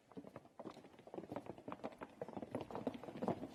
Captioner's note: foot steps